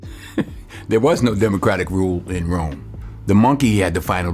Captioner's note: laughs